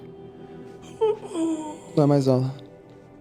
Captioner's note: whimpering